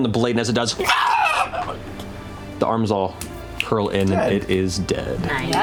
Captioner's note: shrieks